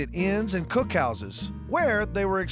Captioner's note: none